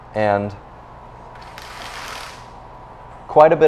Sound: window shade raising

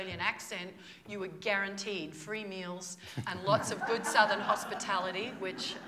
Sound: laughter

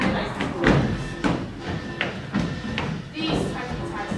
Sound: footsteps thumping

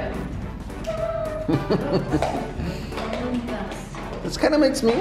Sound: laughing

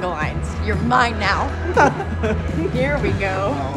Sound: laughs

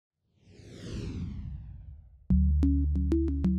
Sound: air whooshing

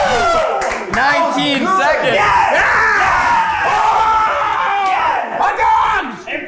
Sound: everyone cheers excitedly; screaming

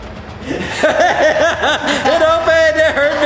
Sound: laughs

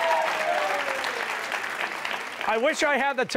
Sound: cheers and applause

